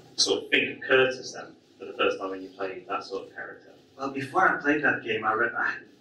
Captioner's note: none